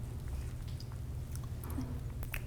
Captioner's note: quietly